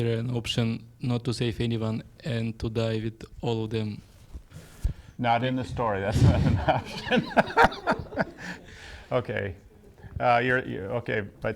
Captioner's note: laughs